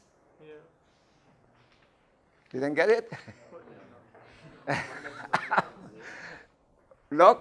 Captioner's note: laughing